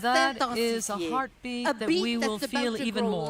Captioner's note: speaking French